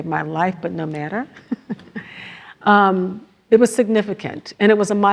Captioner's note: laugh